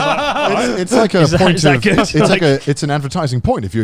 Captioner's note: all laughing loudly